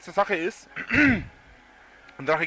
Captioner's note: clears throat